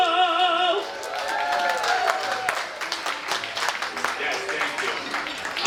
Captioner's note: applause and cheering